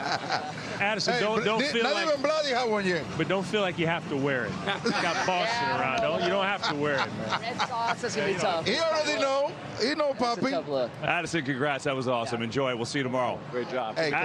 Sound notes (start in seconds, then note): 0.0 laughter; 4.6 laughs